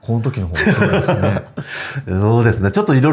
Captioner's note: laughs